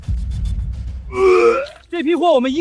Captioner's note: gags